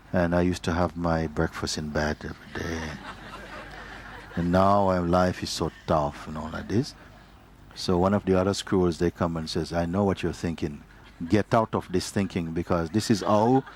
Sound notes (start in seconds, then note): 6.7 laughter